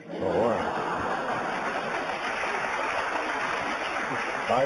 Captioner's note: applause